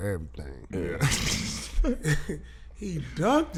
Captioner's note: laughing